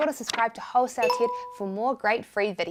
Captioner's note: bell rings